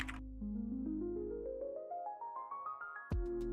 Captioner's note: typing